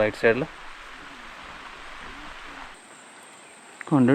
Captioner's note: animal sounds